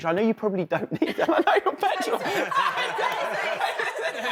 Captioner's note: laughing